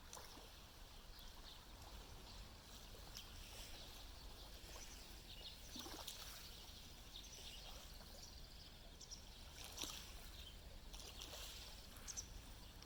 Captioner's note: Sounds of lapping waves and birds chirping along the shores of Lake Biwa